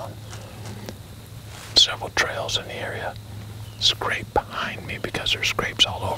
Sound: whispering

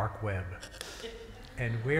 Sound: laughter

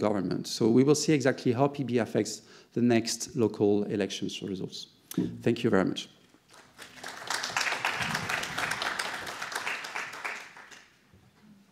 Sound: applause

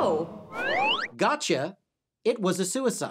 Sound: slide whistle

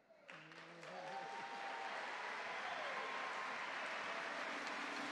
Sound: audience cheer and clap

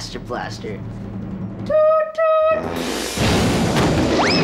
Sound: farting

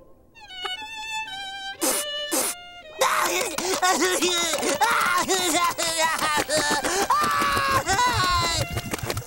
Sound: sniffling, crying

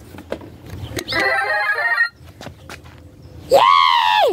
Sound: mushroom sounds

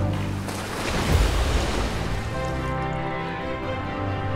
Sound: water splashing

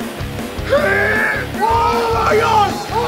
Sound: grunting

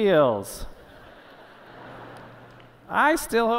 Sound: laughter

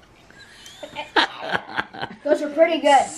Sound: man laughs

